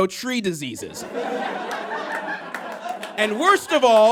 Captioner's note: audience laughs heartily; scattered claps